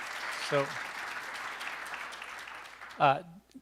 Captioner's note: applause